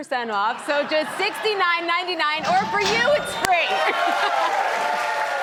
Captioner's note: laughs; audience cheers